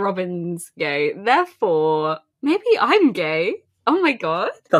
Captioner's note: laughs